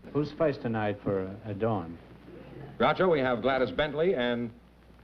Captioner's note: none